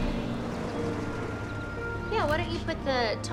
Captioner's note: birds chirping; light music